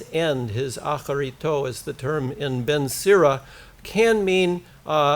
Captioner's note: foreign language